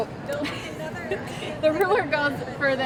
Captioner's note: laughs